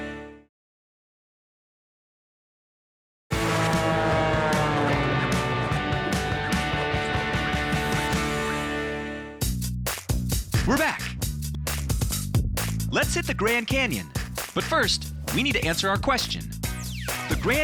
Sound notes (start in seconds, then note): 3.3 airplane whooshing; 3.4 upbeat music